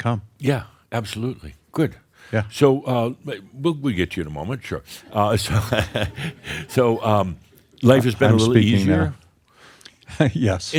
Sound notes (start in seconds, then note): 5.4 chuckles